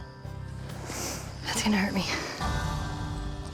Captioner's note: inhales deeply